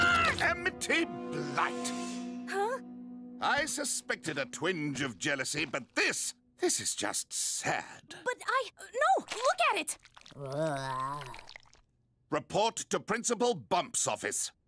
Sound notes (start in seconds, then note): 10.3 Luz groans